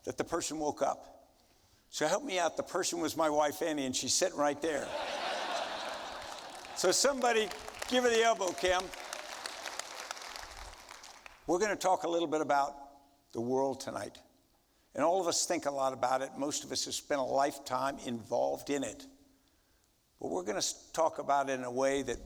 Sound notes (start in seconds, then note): 4.7 audience laughing; 9.2 audience applauding